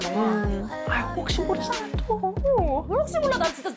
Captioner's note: with a coaxing voice